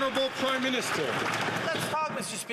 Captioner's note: some Applause